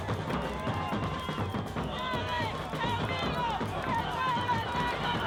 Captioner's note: chanting in Spanish